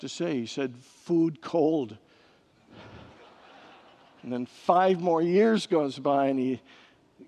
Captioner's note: congregants laugh